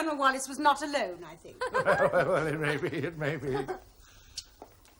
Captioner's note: laughing